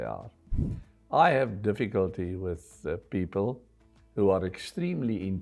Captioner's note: air whooshing